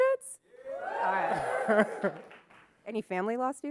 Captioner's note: crowd cheers